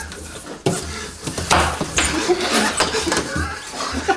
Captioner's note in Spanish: risas de nuevo